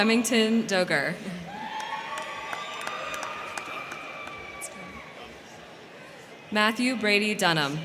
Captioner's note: crowd cheering; crowd clapping